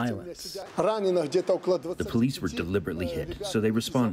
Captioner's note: through translator